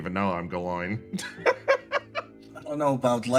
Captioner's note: laugh